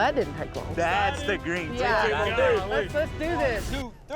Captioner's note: cowboys cheering